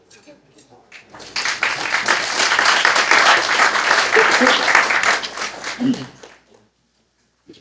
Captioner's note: applause